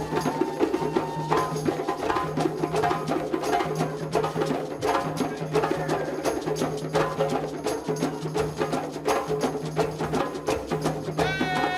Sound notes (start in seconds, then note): 0.0 people cheering; 5.4 dancer exclaiming; 5.4 man cheering; 11.5 men singing in a foreign language